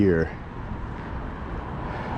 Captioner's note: street noise